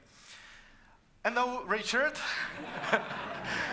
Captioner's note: audience laughing